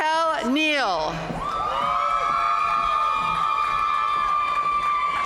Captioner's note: audience cheering and applauding